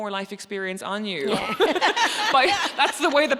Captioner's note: both laughing